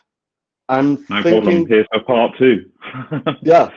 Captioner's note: laughing